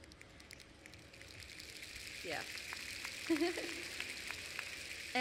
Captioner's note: applause